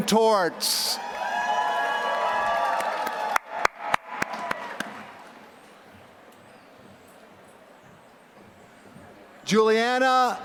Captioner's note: applause